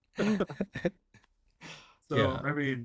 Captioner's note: laughter